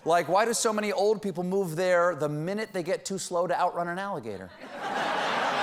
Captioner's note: laughter